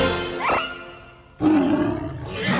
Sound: roaring; screaming

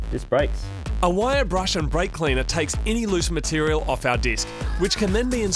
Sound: voiceover

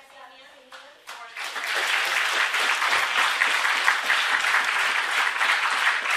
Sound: applause

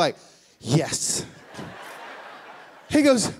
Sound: laughing

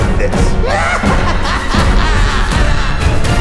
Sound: laughs

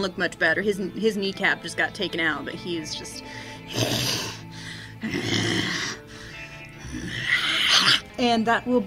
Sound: goblin panting and growling

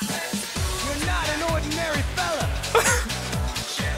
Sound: tempo speeds up; laughing

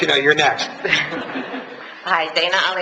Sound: laughs

